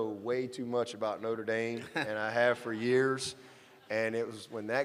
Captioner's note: laughter